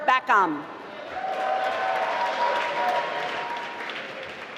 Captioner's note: applause